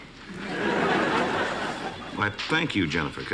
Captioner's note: laughter